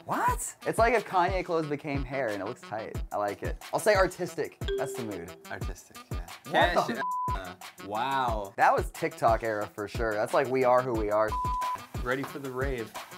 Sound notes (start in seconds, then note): 4.7 dings; 6.9 beep; 11.4 beep